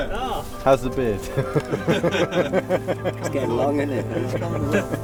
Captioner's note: laughter